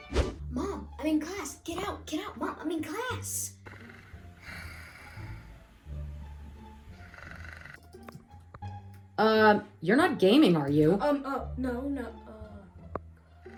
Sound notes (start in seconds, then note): 3.6 snoring; 9.1 off-screen voice; 13.3 more snoring